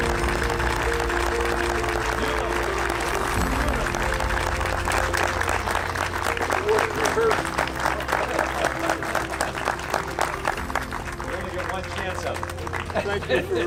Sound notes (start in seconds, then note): 6.1 audience applause drowning out speaking